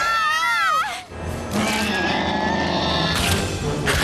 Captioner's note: screams; screeches